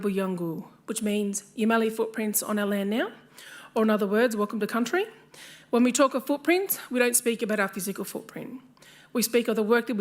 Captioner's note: speaks Indigenous language